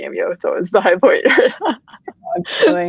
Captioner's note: laughing